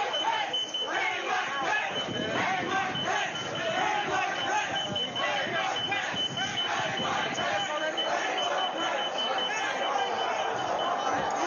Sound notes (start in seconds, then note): 4.1 beeping; 7.2 chanting